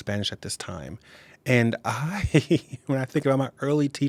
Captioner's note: chuckling